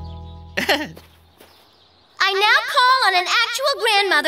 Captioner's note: laughing